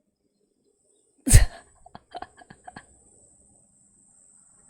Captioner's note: laughs